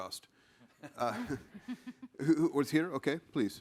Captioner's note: participants laughing